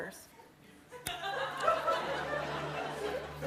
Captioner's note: laughter